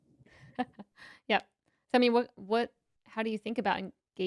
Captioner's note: laughs